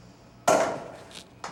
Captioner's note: pop